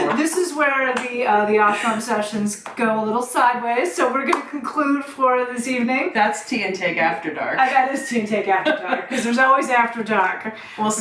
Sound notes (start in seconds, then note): 8.5 laughs